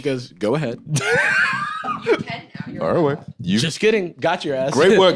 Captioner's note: laughs